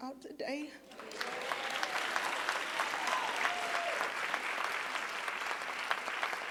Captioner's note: audience cheering and applauding